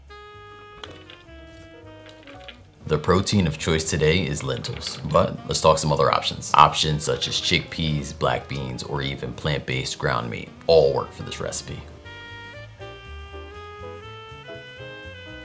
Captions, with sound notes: [lentils dropping] The protein of choice today is lentils but let's talk some other options. Options such as chickpeas, black beans, or even plant-based ground meat all work for this recipe.